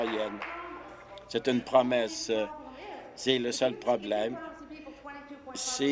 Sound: applause

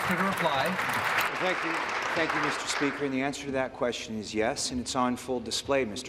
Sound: applause

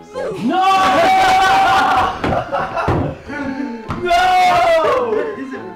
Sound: group yelling and laughing

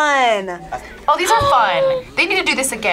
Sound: gasps

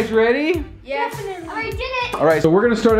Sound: enthusiastic response

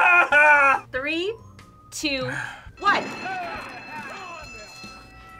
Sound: bell rings

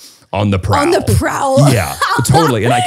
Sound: laughs

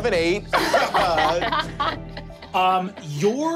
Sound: all laughing

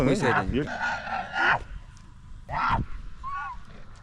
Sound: camel's roar

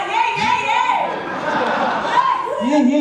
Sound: laughs

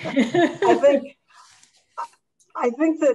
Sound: chuckles; group chuckles

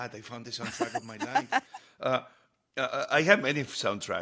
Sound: Hoda laughs

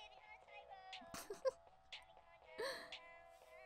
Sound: theresa laughing

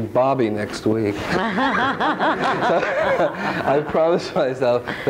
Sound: all laughing

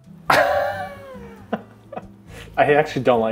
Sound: laughing

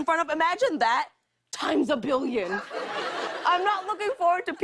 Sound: laughter

